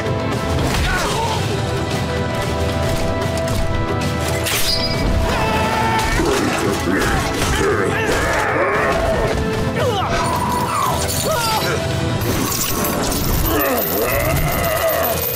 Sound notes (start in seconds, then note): 0.2 grunting; 5.5 grunting; 13.2 grunting